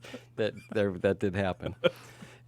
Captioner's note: laughs